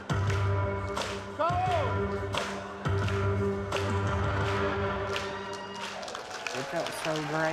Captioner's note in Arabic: هتاف